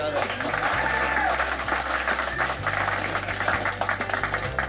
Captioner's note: audience applauding